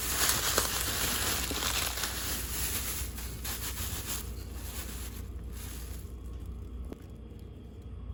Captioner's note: crunch crunch